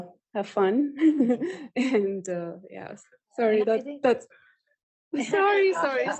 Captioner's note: laughter